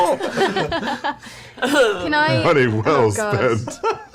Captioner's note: laughing